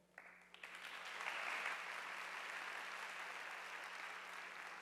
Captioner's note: audience applauding